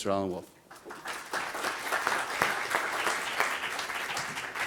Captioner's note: applause